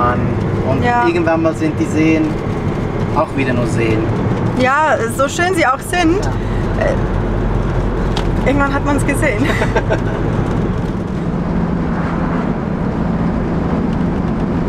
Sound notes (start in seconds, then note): 9.4 laughter